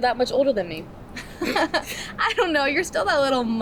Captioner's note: both laughing